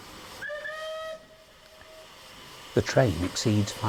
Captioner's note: train horn